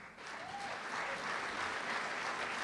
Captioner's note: applause